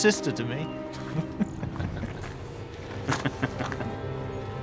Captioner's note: chuckles